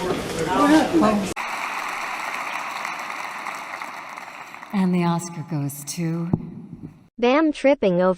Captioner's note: applause